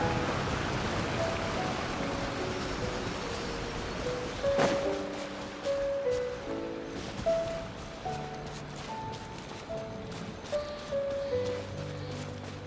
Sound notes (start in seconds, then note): none